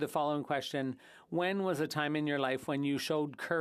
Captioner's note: speaking French